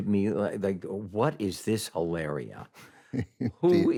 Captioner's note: chuckles